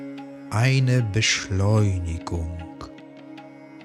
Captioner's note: german